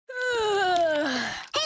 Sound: yawning

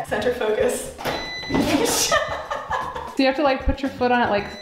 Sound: laughter, beeping

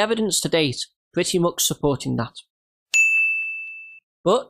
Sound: ding

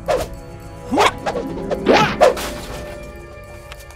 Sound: swooshing

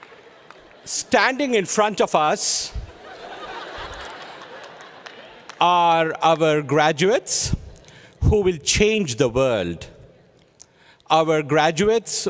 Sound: laughter

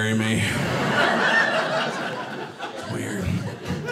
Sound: audience laughing

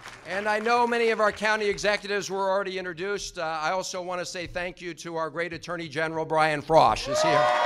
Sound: applause

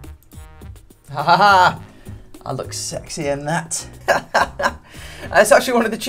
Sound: laughing

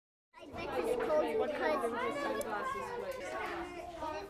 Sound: children chatter

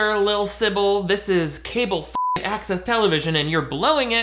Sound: beeping

